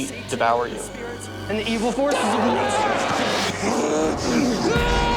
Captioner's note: growling and screaming